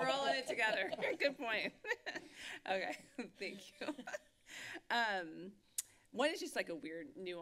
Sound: giggles

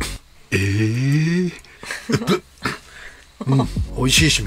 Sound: laughs

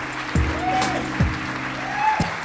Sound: laughs

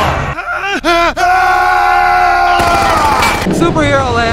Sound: manly scream

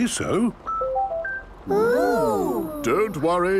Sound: car chiming

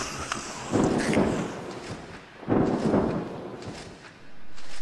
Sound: thunder crashing

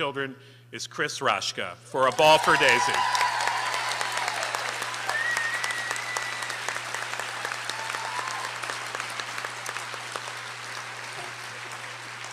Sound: applause

